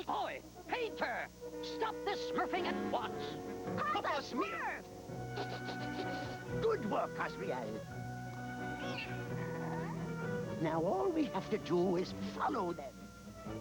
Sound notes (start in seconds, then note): 5.2 snif